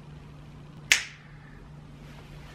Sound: snap

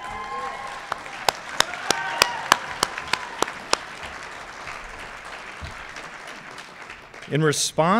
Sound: cheering and Applause

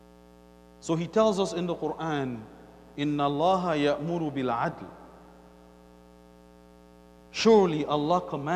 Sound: Arabic

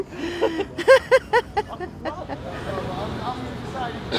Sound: woman laughs

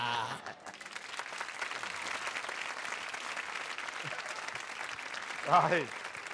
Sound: applause

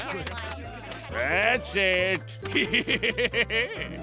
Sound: laughing

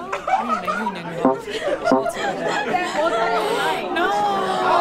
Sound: participants chattering; electronic tone beeping; participant gasps

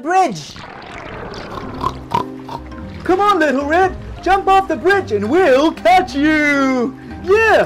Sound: pig snorts

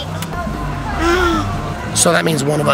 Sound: babbling

